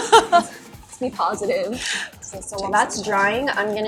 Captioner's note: laughs